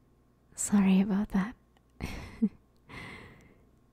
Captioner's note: laugh